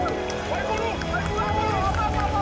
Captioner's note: shouting